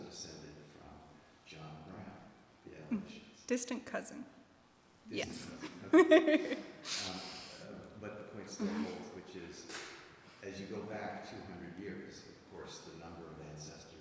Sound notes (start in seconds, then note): 5.3 laughs